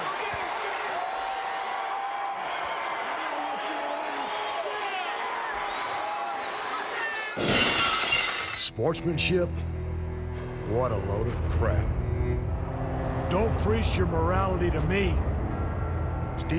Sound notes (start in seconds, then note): 0.0 audience cheers; 7.4 glass shatters